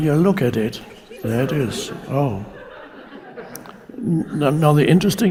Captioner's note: audience laughing